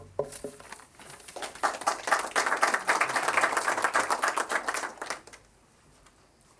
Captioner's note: applause